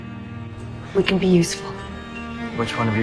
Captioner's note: voiceover